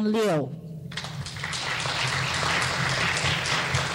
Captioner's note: clapping